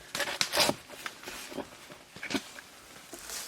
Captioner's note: digging